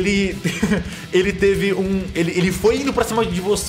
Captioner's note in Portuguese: riso